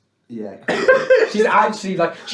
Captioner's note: laughs